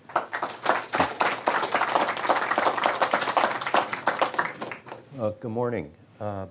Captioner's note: applause